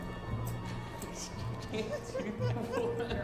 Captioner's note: man laughing